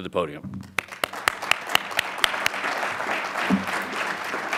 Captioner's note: audience applauds